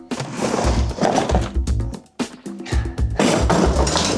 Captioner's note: materials shuffling; pleasant music